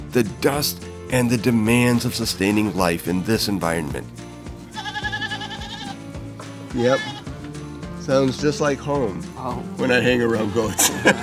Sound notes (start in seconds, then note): 4.6 goats and sheep bleating